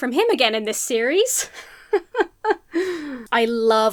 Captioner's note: forces laughter